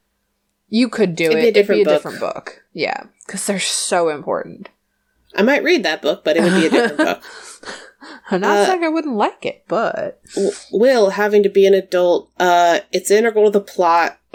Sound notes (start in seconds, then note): 6.3 laughs